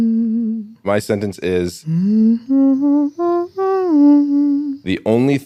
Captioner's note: humming; humming